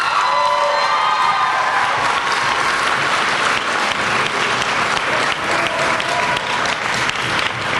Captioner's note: applause and cheering